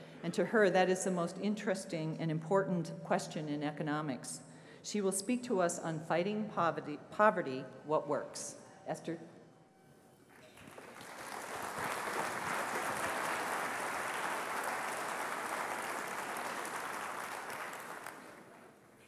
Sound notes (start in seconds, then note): 10.3 applause